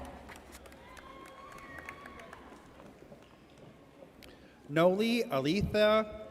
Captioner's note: audience cheers